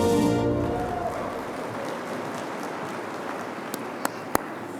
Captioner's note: audience applauding